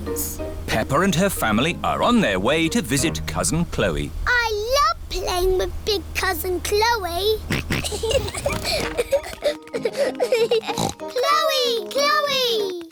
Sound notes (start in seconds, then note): 7.4 kids giggling; 7.4 snorts